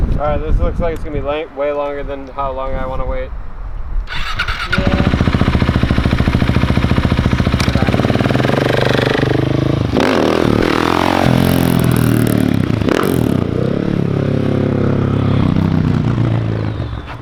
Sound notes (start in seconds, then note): 5.1 bike engine starting; 10.3 bike revving